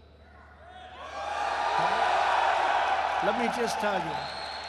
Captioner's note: applause